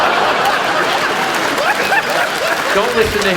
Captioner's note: audience applauds; audience laughs